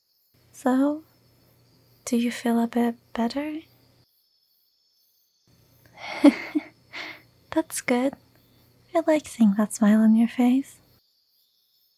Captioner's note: chuckle